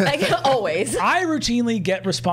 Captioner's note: all chuckling; chuckles